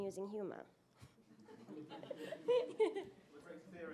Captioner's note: laughter